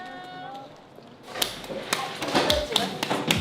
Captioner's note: clap clap clap clap clap